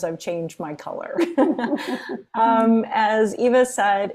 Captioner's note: laughing; laughs